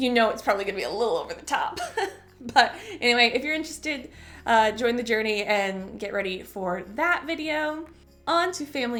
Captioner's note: chuckle; chuckle